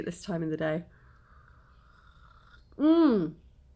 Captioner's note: sipping